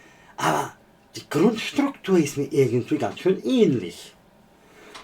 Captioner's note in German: räuspern